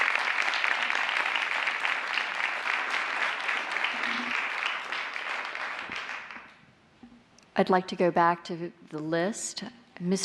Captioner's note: applause